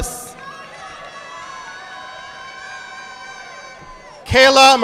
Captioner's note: audience clapping